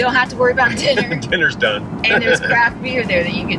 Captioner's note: laughing